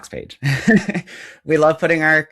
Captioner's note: chuckles